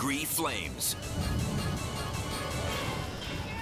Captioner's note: flames roaring